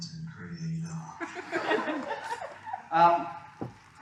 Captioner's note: laughter